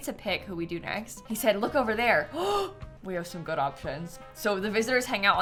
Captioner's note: gasps